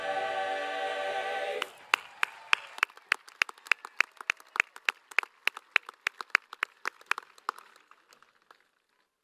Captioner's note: applause